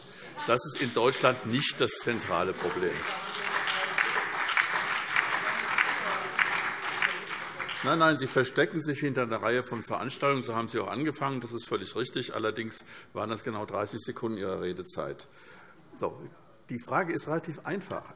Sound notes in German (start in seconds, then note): 3.0 Beifall SPD, BÜNDNIS 90/DIE GRÜNEN und DIE LINKE - Zuruf AfD